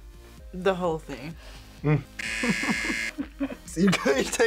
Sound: laughs

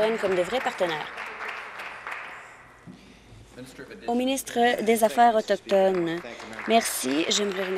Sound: applause

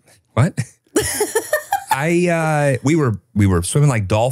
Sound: laughing

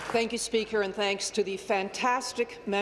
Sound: applause

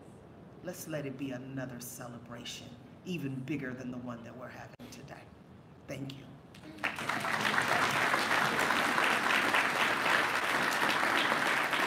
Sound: applause

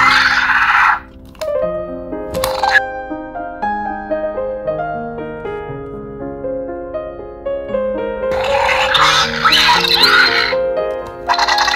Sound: Primal Pal Blue sounds

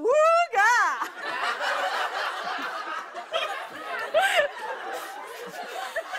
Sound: laughter

